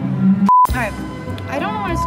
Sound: beep

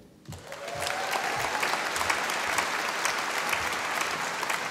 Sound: audience applauding

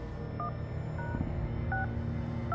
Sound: phone dialing

